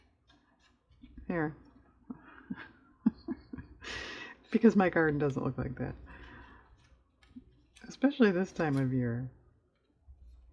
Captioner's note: laughs